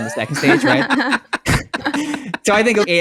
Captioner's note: laugh